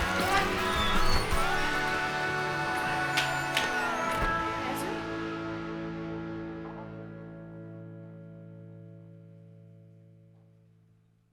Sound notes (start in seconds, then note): 0.0 hinges squeaking